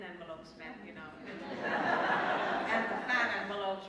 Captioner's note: laughter